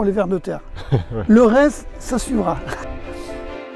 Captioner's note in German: lacht